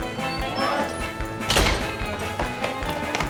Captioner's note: door closing; running footsteps approaching